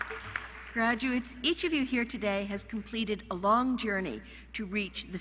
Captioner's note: applause